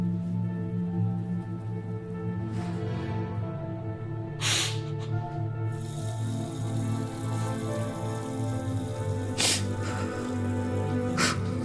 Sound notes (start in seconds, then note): 5.9 running water; 9.1 sniffling, sobbing